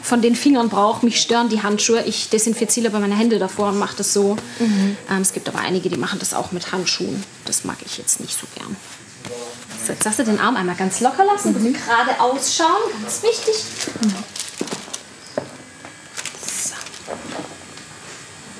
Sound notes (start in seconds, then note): 16.0 quietly